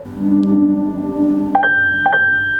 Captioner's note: Google home sound